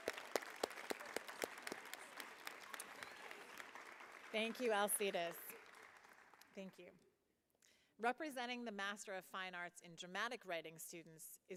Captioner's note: applause